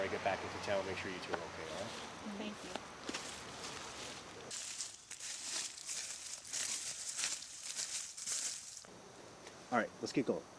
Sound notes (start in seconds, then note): none